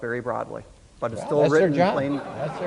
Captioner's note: audience laughs